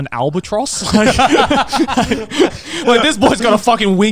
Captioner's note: laughing